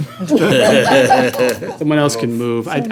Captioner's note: laughter